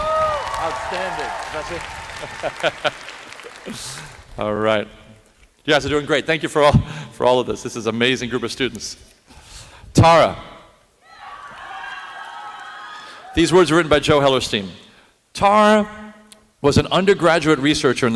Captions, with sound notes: [APPLAUSE] Outstanding, Professor. [CHUCKLES] All right. You guys are doing great. Thank you for all of this. This is an amazing group of students. Tara. These words were written by Joe Hellerstein. Tara was an undergraduate researcher